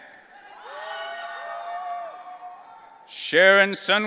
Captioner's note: audience cheering